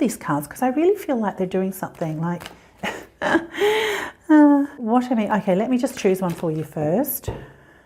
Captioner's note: hehehe